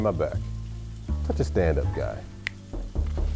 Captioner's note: snap; knocking